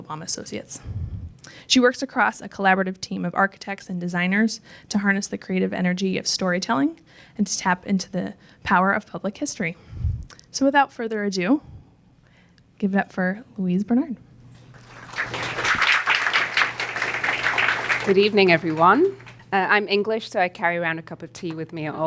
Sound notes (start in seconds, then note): 14.6 applause